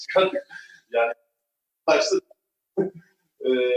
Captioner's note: voice cut out